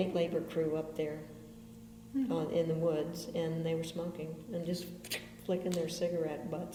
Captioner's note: makes flicking noise with mouth